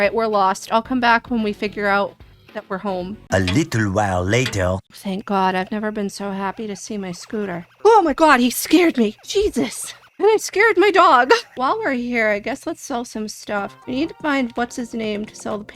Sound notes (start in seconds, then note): 3.4 french accented male narrator voice